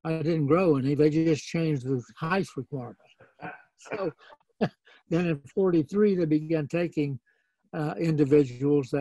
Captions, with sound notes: I didn't grow anything. They just changed the height requirement. (laughing) And in '43, they began taking individuals